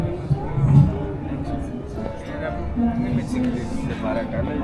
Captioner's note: people chattering